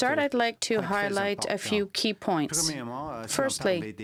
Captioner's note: speaking french